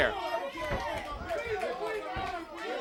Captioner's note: crowd chatter